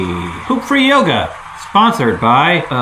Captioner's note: audience cheers and claps